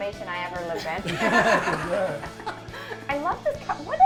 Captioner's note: laughing